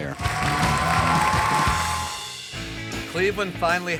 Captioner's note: cheers and applause